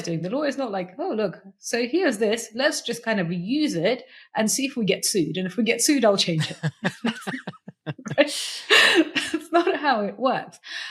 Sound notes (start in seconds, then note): 6.3 laughs